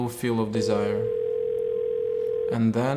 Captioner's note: dial tone ringing